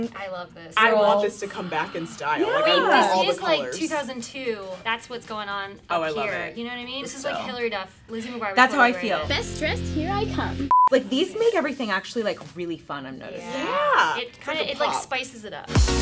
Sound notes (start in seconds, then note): 10.6 beeping